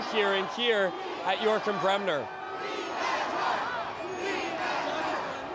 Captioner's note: chanting